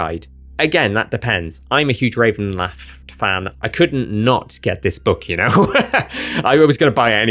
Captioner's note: laughs